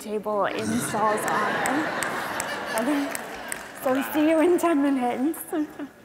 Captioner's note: laughter